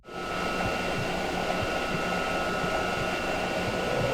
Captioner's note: machinery whirring